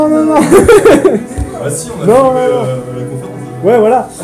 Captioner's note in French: rires